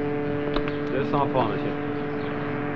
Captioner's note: French spoken audio